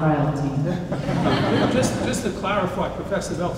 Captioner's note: audience laughs